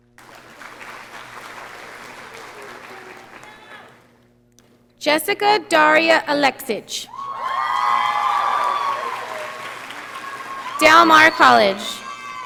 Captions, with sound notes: (audience applauding) Jessica Daria Aleksich. (audience cheering) Del Mar College.